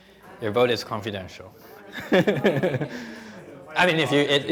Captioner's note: laughing